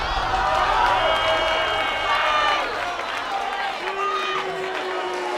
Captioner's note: crowd cheering and booing